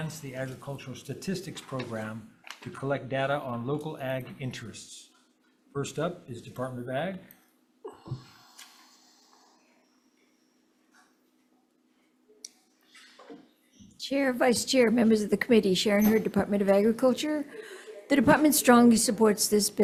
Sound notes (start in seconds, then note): none